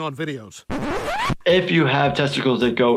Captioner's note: record scratches